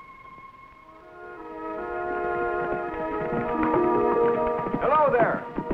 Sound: exciting music; horse galloping

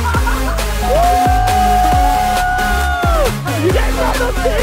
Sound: dad laughs; dad and crowd cheering

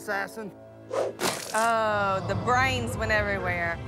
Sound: splat

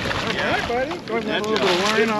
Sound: fish splashing

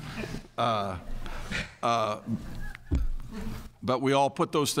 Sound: laughter

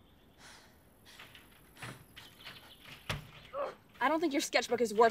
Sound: sounds of fighting

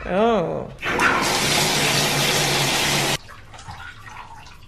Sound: water pouring; water dripping

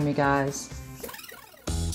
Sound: tape rewinding

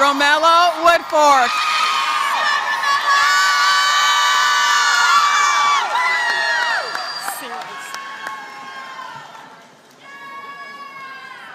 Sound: applause

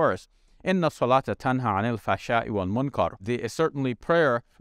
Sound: speaks in foreign language

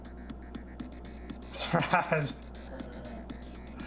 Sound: laughing

